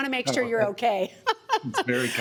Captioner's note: laughs